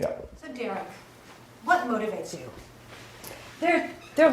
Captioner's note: voiceover